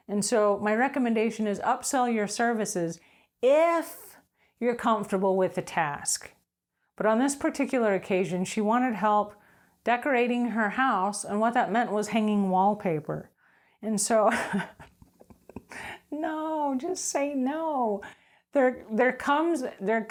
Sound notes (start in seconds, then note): 14.3 laughing